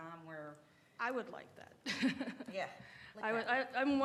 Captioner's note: laughter